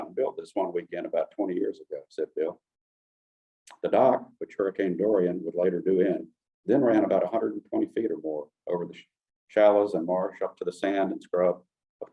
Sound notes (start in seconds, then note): none